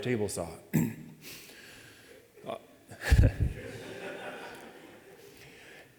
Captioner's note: audience laughing